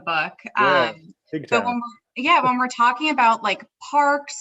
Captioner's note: laughs